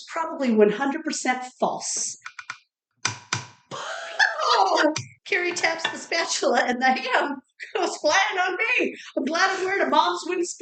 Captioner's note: tapping noises